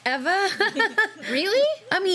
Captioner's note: laughing